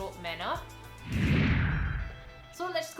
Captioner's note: low whooshing